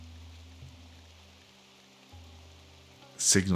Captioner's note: silence